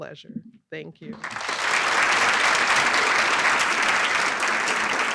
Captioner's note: applause